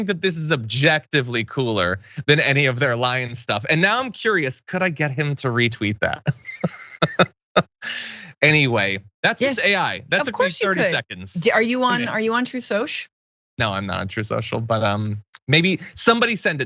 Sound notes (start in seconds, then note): 6.0 laugh